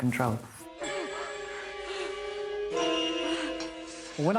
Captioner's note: guinevere gasping